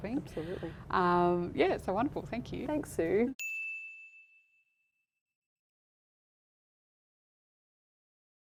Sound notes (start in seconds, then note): 3.5 pinging